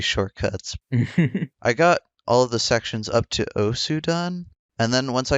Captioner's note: laughs